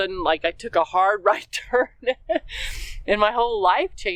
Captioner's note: laugh